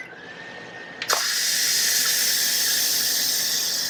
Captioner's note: hissing